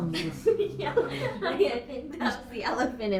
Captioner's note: laughing